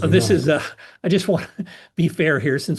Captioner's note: laugh